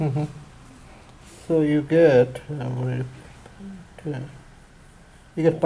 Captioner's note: voiceover